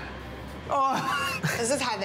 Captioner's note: laughs